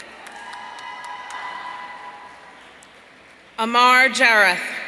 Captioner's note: audience cheering